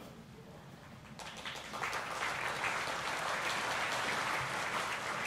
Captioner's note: audience applauding